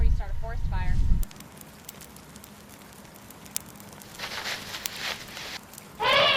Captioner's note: crackling of fire; shuffling dirt; angry roar